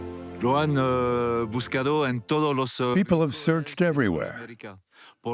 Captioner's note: Spanish dubbed into English